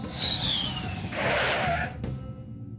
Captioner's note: screeching